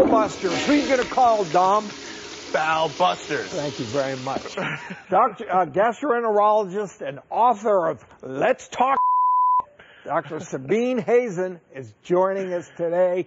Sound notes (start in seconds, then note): 9.0 beep